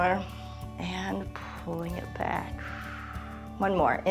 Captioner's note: exhales; inhales